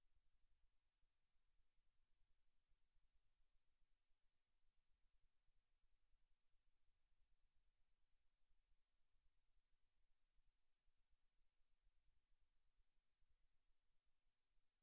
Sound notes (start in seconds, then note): none